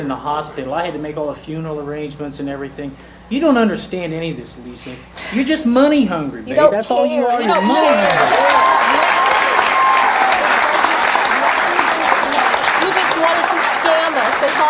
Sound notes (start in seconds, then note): 7.3 audience clapping and cheering